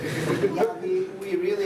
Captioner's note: laughter